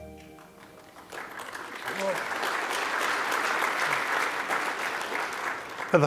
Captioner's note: applause